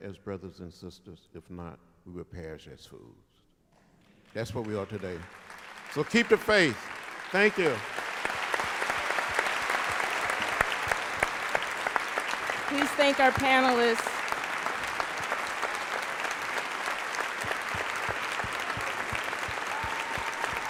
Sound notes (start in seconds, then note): 2.9 applause; 10.3 applause; 16.3 continued applause